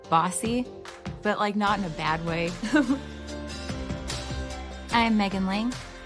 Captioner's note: laughs